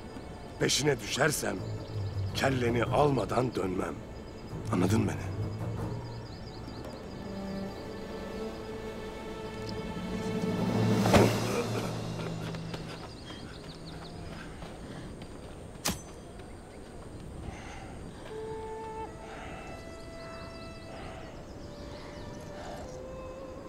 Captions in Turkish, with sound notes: Peşine düşersem, kelleni almadan dönmem. Anladın mı beni? (Müzik - Gerilim) (Kılıç saplanma sesi) (Müzik - Duygusal) (Kuş cıvıltısı sesleri)